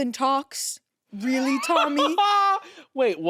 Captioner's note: laughs